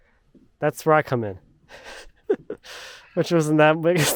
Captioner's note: laughing